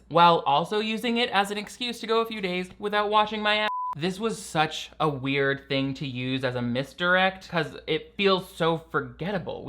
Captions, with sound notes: while also using it as an excuse to go a few days without watching my (beeps). This was such a weird thing to use as a misdirect, 'cause it feels so forgettable.